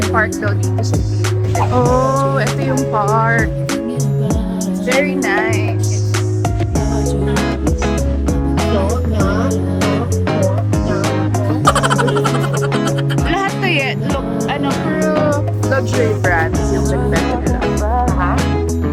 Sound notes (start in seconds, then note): 8.8 speaking in Foreign; 11.6 laughing SFX